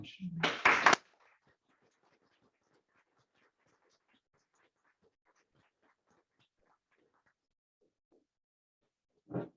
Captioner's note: applause